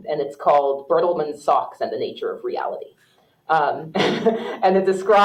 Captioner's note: laughs